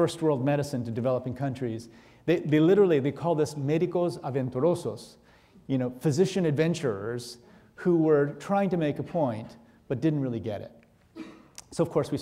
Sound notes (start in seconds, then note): 3.8 speaking in foreign language